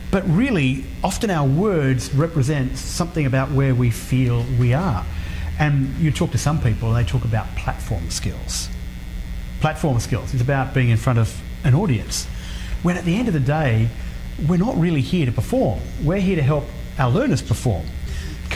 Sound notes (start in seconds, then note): none